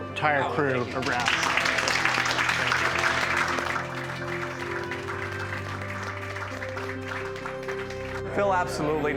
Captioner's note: applause